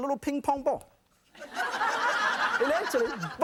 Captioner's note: audience laughing